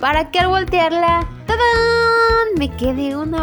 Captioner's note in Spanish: sonido de emoción